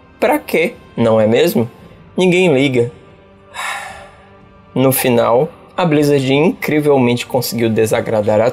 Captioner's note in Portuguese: Respirando fundo